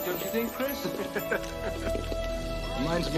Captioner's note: both laughing